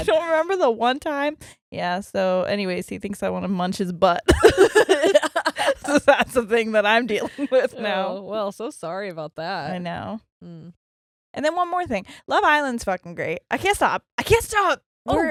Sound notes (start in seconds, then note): 4.3 laughing